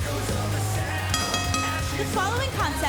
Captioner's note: bell ringing